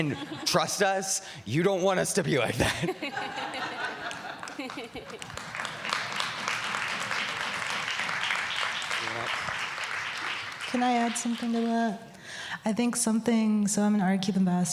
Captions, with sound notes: AND TRUST US, YOU DON'T WANT US TO BE LIKE THAT. [LAUGHTER] [ APPLAUSE ] >> CAN I ADD SOMETHING TO THAT?